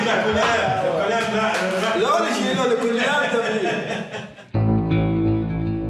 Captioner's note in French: Hebrew spoken language